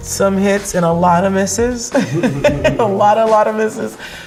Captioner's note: laughs